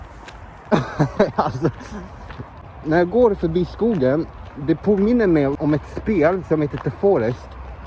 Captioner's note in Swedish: Haha